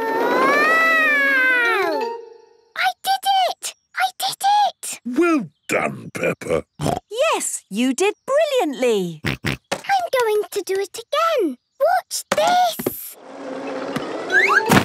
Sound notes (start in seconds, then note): 5.7 snorts